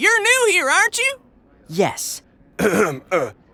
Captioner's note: clears throat; deeper voice